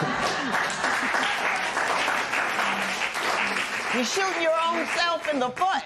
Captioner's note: laughter; cheers and applause